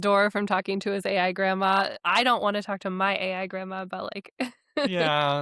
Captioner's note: chuckles